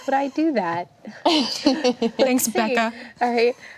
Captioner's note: laughing